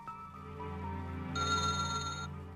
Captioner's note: bell Ring